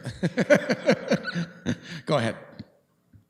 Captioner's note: laughs